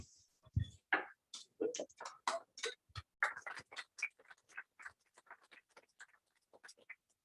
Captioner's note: applause